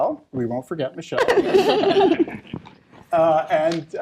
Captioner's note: laughter